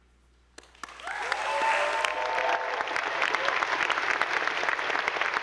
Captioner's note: attendees applauding